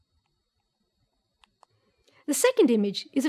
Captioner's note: mouse clicks